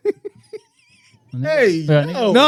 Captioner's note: laughing